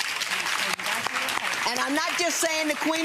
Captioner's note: audience applause